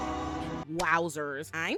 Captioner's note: crowd booing